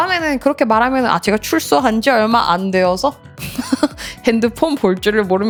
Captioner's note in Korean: 웃음